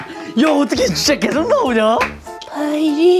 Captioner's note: laughing hysterically